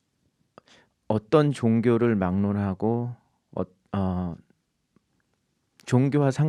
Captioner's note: speaking in Korean